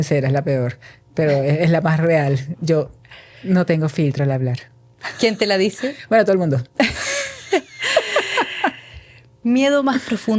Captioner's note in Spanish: risas